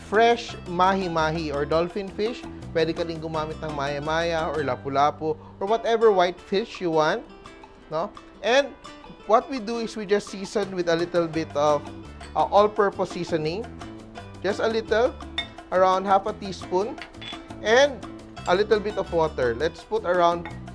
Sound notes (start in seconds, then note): 15.3 clink; 17.2 clink